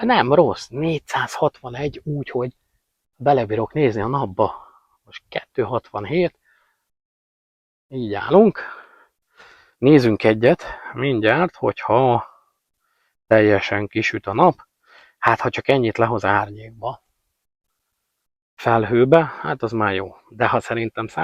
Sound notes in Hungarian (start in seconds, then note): 9.4 sóhajtás